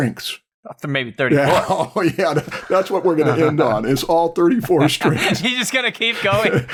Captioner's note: laughs